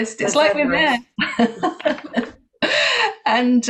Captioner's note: laughs